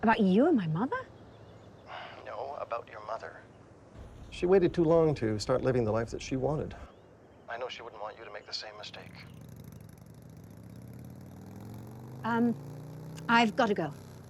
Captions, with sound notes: - About you and my mother. - No, about your mother, she waited too long to start living the life that she wanted. I know she wouldn't want you to make the same mistake. (motorcycle engine revving) - I've got to go.